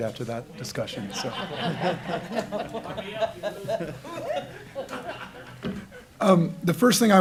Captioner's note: laughter